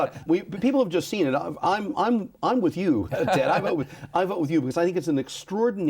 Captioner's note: laughs